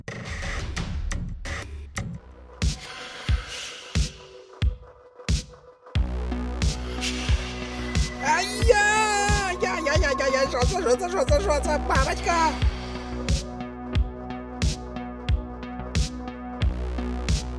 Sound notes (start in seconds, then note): 2.3 ghostly whisper